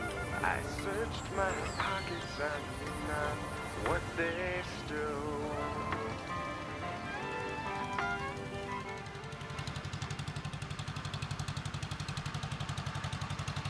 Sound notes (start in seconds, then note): 9.5 tractor humming